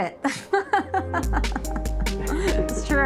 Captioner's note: laughing